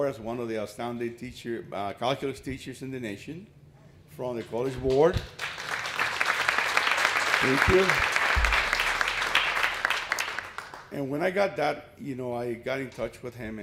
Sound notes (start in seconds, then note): 5.2 applause